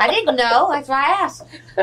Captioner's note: laughter